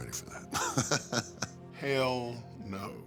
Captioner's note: laugh